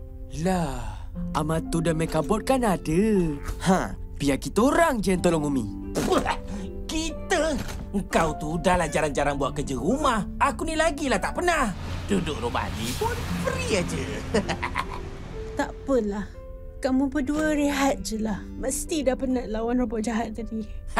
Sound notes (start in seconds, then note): 8.2 scoffs; 14.3 MechaBot chuckles